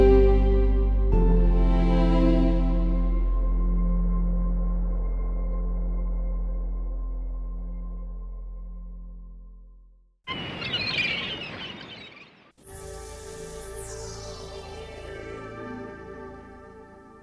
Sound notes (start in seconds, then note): 10.2 seagulls squawking; 12.7 dramatic music